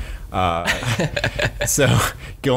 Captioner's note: laughs